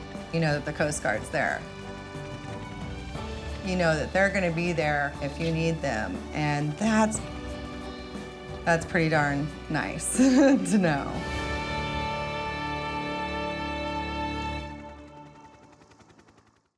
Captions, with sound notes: The Coast Guard's there. You know that they're gonna be there if you need them, and that's... That's pretty darn nice (laughs) to know. (heroic music)